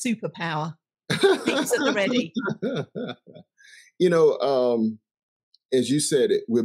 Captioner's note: laughing